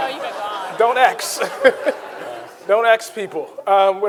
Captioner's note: audience laughing; Ta-Nehisi chuckles